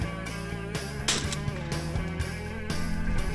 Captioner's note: gun fire